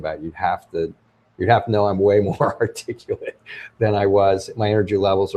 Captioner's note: laughs